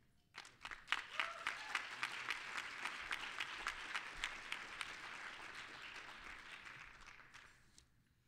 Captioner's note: applause